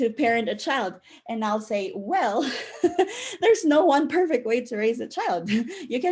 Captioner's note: chuckle